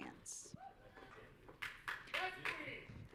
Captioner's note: audience cheering